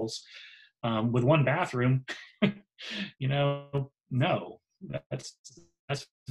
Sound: laughs

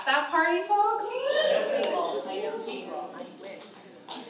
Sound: audience cheers

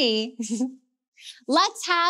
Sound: chuckles

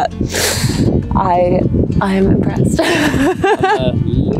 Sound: laughing

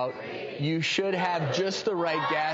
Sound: audience begins countdown

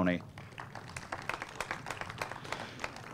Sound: applause

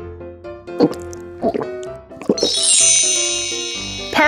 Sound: gulping

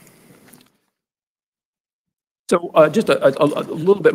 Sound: moment of Silence

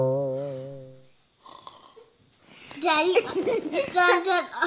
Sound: boing sound effect; snoring; laughing

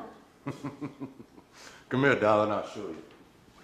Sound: laughing

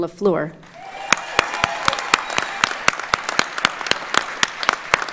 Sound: audience applauds

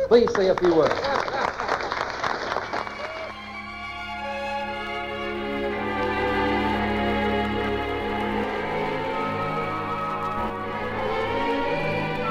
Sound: applause; distorted music

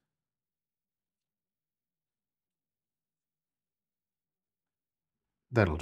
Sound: silence

